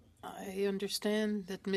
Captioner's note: speaking French